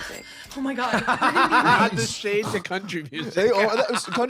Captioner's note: laughing